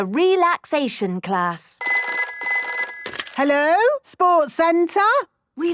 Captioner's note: phone ringing